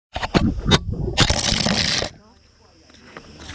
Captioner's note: camera falls